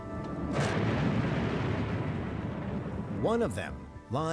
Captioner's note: explosion roars